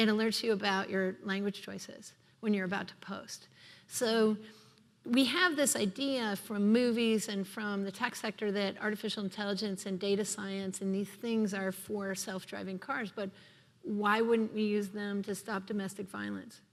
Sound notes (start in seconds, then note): none